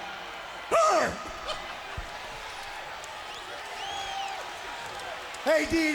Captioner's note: laughs